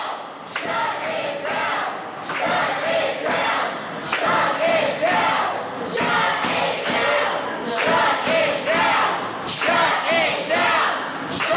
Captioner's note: audience chanting shut it down